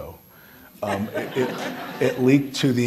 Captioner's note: all laughing